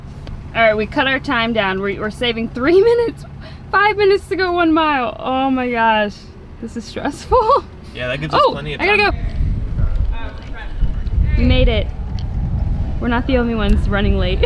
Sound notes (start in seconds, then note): 7.3 laughs; 10.3 participants chatter